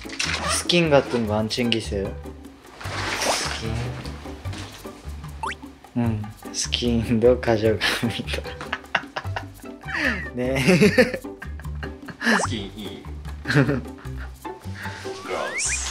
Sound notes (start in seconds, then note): 9.8 playful